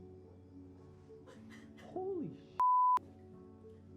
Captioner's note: crying